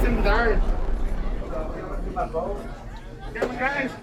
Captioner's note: chatter